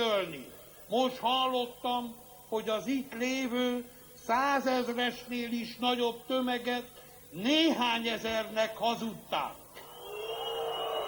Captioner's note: blowing